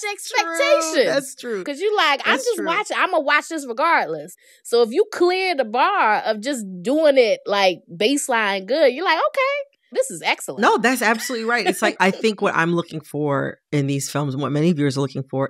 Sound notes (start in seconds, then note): 11.1 laughter